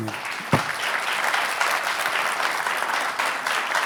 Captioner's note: applause